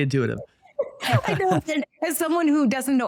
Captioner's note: both laugh